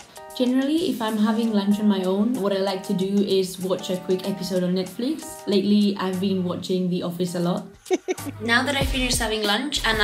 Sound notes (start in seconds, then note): 7.7 chuckles